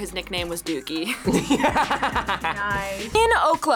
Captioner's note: both laugh